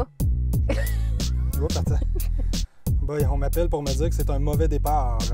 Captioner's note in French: rires